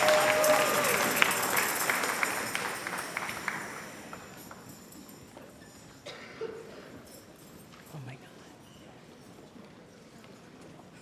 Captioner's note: applause and cheers